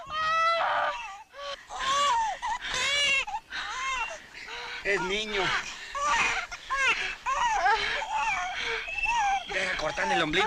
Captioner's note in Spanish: Gritos; Llanto de bebé; Jadeo